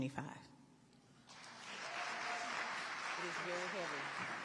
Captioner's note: audience applauding